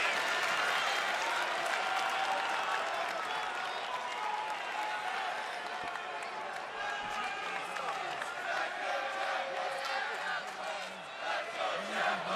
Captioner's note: crowd cheering